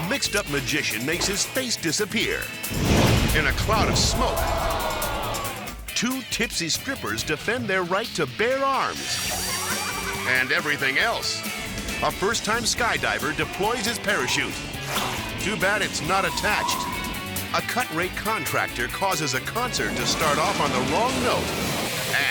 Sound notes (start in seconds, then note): 2.6 fire whooshes; 9.2 strippers laughing